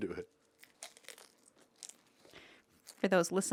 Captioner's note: Ian's cone crunches